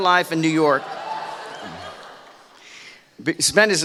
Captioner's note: laughing